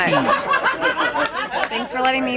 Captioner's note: background laughing